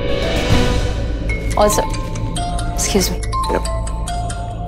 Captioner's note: Phone ringing